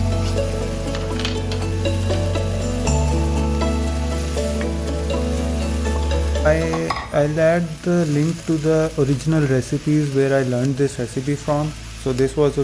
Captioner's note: sizzling